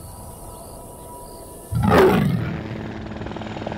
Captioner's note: Roars